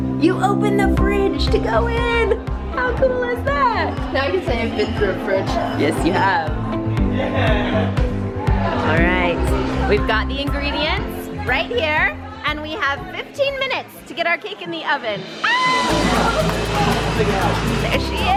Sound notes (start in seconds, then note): 7.0 upbeat music continues; 15.4 screams